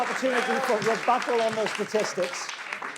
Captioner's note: audience clapping